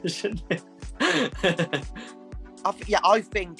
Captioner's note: laughter